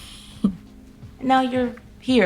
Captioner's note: Kira laughing